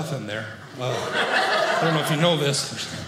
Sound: audience laughing

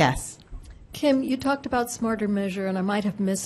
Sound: voiceover

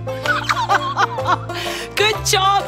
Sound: laughs

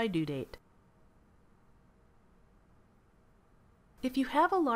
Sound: silence

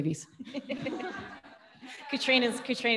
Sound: audience laughing

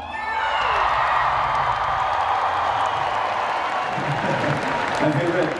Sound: cheering

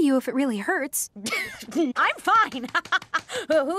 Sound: laughing; laughs nervously

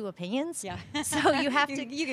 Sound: laughter

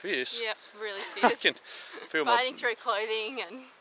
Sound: laughs

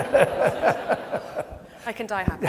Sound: audience laughs

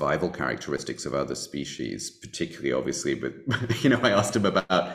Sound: laughing

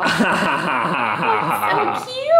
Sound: man laughs

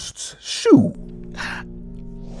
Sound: gasp!

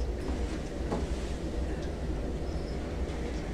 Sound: whispering continues

